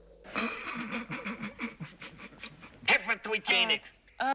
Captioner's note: Оба хихикают